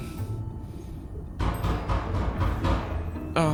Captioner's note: knocking on door